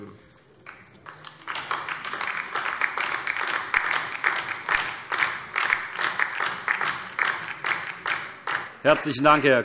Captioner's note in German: Beifall DIE LINKE